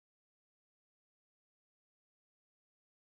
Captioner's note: none